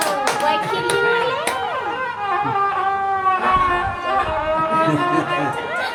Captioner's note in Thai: ปรบมือ